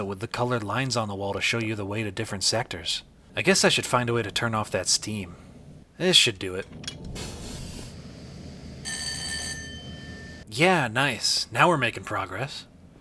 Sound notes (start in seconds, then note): 7.1 valve turns and hisses; 8.8 bell rings briefly